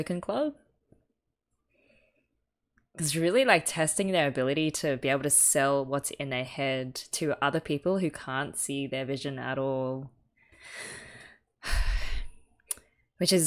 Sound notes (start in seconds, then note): 11.6 sighs